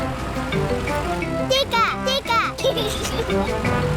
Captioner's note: giggles